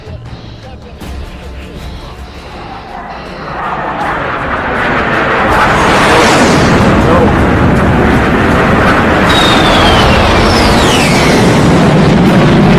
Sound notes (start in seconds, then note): 2.9 plane engines buzzing